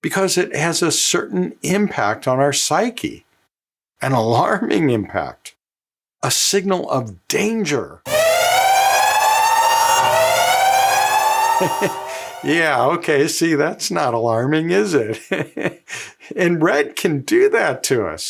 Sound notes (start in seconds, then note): 8.0 alarm sounds